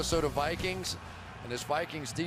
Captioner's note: cheering